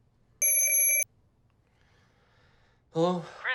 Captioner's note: phone ringing